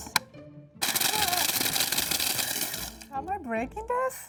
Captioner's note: blender whirs